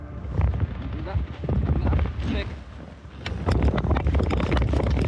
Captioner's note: wind rustling